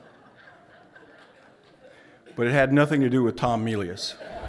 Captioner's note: laughter; laughter